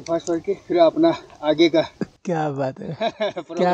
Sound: laughing

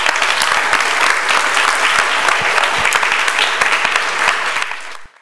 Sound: audience applause

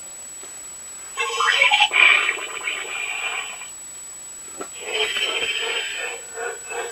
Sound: snarl Sounds

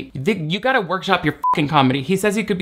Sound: beep

